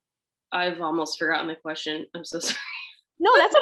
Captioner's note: laughs